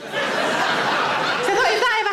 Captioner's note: audience laughs